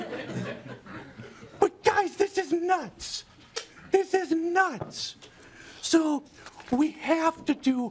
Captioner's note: laughing